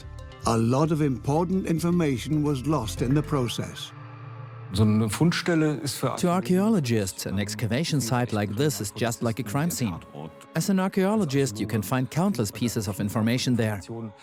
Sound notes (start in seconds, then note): 4.7 in German; 6.2 dubbed in English